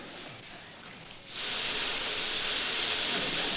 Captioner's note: water running